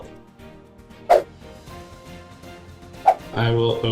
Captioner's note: upbeat music; swooshing